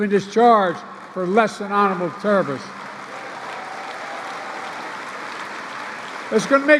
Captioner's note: applause